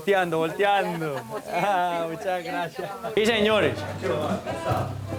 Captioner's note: laughter